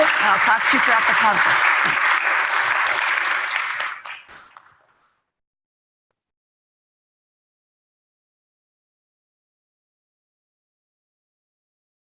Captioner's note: applause